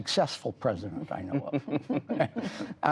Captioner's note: laughter